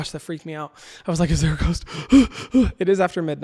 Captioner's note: breathes out